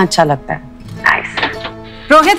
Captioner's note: Door opens